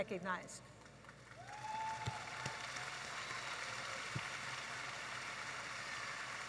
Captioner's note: audience applauding and cheering